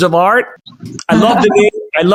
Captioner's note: laughs